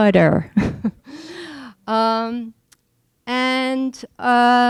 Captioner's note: laughing